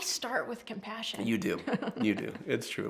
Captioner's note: chuckling